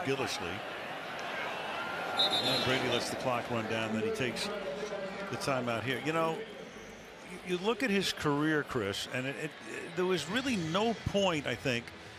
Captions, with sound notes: Back is Gillislee. [whistle] And Brady lets the clock run down. Then he takes the timeout here. You know, you look at his career, Cris. And it-- there was really no point,